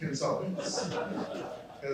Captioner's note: laughter